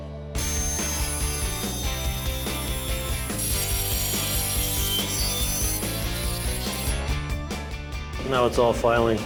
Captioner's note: scraping